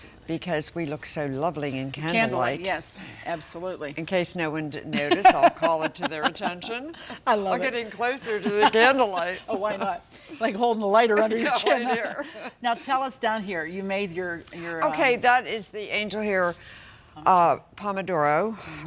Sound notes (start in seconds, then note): 4.9 laughs; 11.8 both laugh